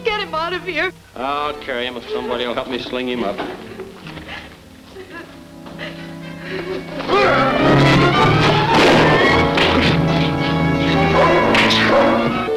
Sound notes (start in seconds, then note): 4.9 girl Crying; 6.8 fighting Noise; 7.4 gun Shots; 10.8 dog Barking